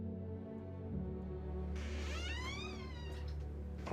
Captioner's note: door creaking